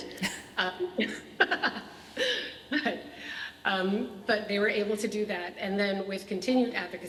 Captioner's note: laughs